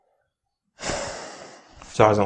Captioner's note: sigh